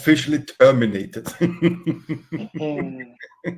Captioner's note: laughter